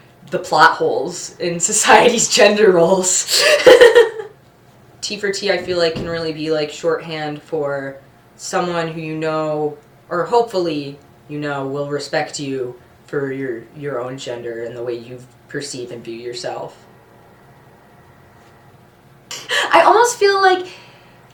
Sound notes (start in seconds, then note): 3.3 laughs